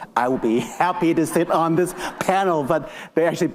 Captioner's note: attendees laughing